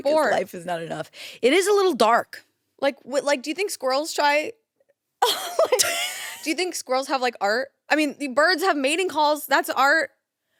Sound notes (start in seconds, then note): 5.8 laughs